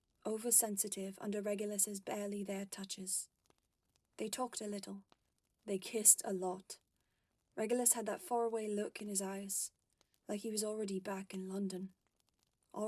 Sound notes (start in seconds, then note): none